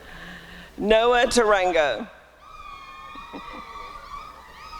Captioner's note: applause and cheering